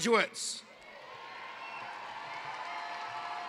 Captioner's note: cheering